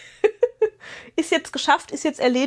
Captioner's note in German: gelächter